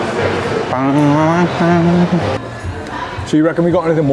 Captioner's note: humming